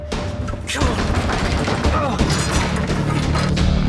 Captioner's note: metal rattling; suspenseful music